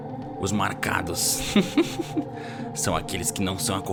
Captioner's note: chuckles